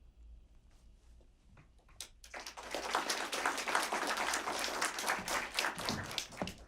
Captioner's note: applause